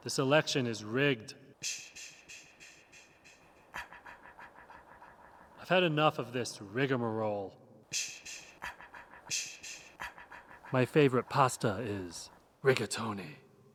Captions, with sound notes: This election is rigged. (shushing) I've had enough of this rigmarole. (shushing) My favorite pasta is rigatoni.